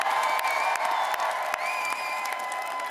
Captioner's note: cheering